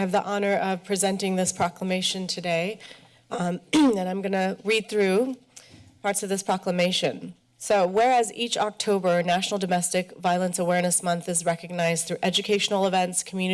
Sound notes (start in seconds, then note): 3.7 clears throat